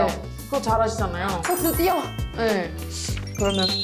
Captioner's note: excited sound effect